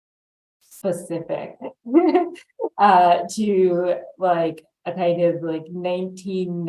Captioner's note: laughs